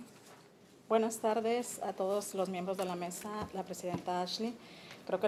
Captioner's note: speaking Spanish